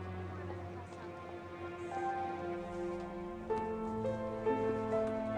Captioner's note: students chattering; tense piano music